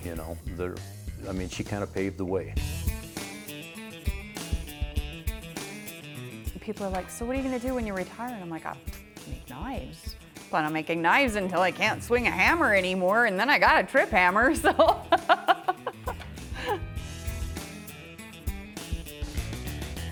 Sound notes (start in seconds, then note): 14.6 laughs